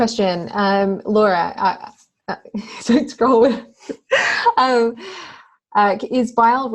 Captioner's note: laughter drowns out speech